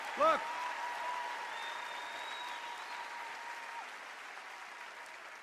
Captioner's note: cheers and applause